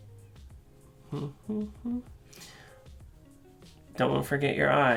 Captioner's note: humming